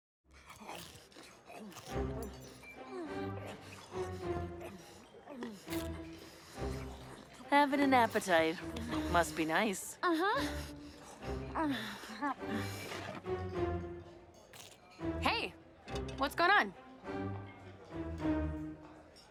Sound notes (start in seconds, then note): 0.3 munching; 3.4 happy music; 9.8 Mischa grunts; 13.4 happy music